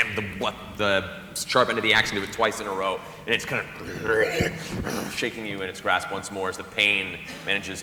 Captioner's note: snarling